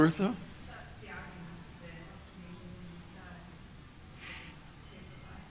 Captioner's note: woman speaking off-microphone